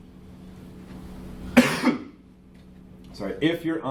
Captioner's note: coughs